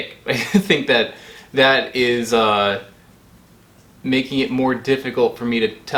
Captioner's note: chuckles